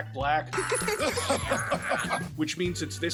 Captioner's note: Tiny Tina laughing, and then someone else laughing